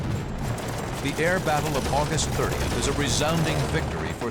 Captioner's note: gunshots